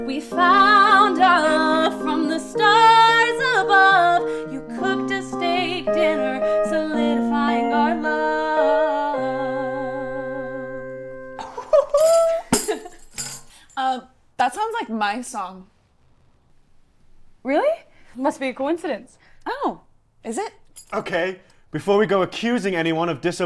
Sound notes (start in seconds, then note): 11.4 laugh; 11.4 offscreen chortle and tambourine slap